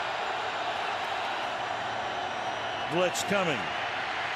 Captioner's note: crowd cheering